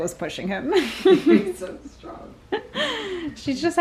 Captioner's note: both laugh